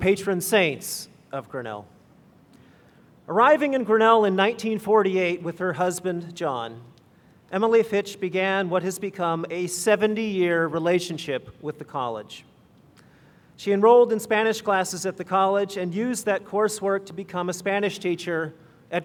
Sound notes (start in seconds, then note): none